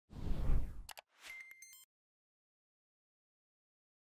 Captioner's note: air whooshing